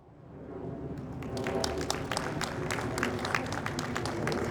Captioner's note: audience applauds